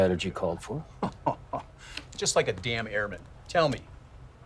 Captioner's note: laughs